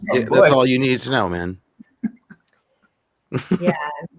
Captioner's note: laughing